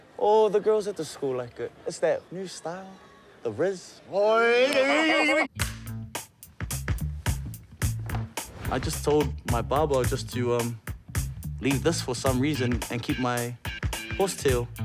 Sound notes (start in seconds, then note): 4.3 laughs; 5.5 playful music